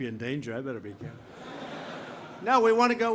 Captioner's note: laughter